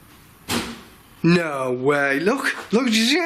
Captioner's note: thud